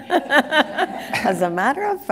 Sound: laughter

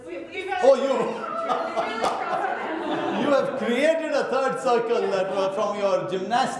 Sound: laughs

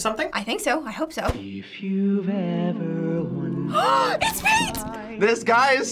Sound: gasps

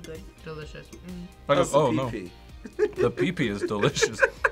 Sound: laughs

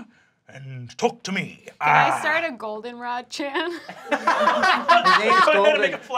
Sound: laughter

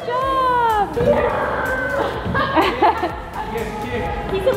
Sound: laughs

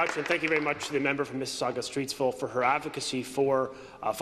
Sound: applause

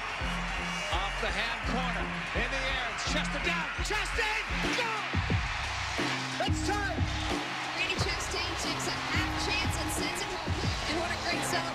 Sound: tv announcer

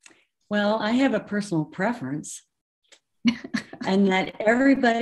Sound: laughs

